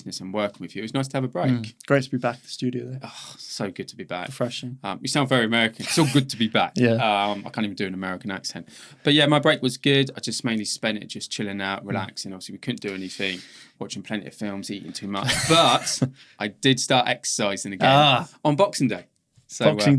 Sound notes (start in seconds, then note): 3.7 sighs